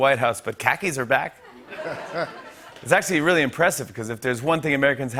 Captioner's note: laughter